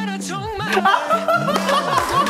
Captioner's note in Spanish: Risas